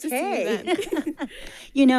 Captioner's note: ladies chuckling